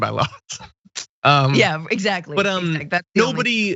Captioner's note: laugh